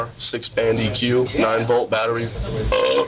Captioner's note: belches